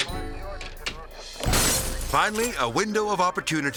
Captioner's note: glass shattering